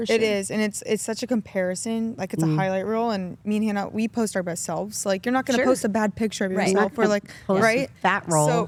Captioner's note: none